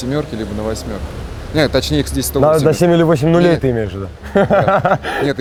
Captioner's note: laughs